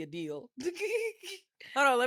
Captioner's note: laughs